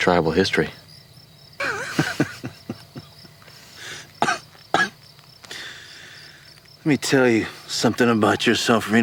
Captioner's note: laughs; coughs